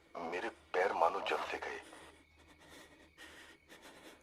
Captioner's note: radio